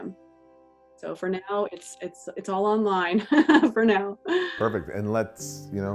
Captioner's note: laughs